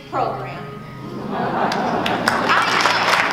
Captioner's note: laughing and clapping